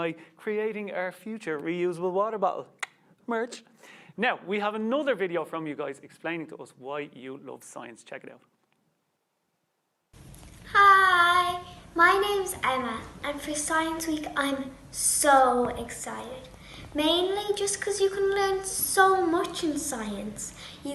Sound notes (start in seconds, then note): 2.9 clicks tongue